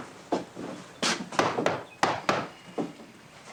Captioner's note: knocking